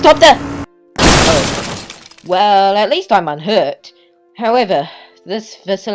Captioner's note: car crashes